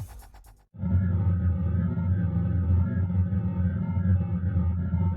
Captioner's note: spacecraft rumbling